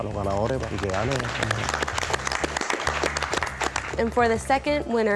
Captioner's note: contestants applaud